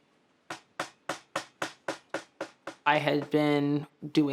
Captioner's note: mallet hammers